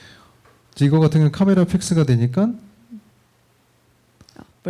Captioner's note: speaking korean